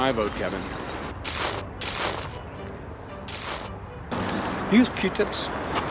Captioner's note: leaves crunching